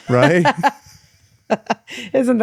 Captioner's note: laughing